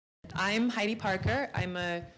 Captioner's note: voiceover